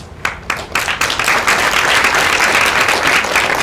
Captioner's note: applause